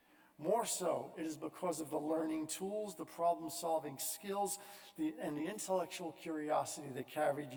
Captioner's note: none